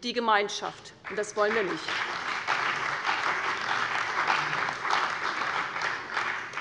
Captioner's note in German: Beifall bei der CDU und dem BÜNDNIS 90/DIE GRÜNEN